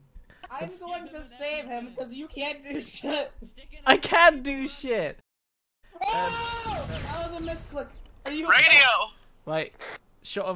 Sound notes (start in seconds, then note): 6.0 very loud scream